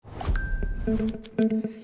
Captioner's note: phone dings; upbeat music